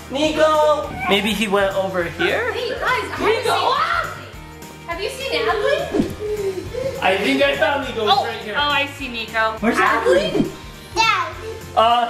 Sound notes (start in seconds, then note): 4.1 yells